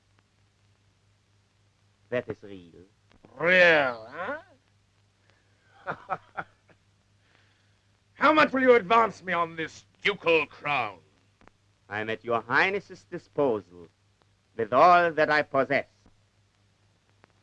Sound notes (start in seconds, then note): 5.7 laughs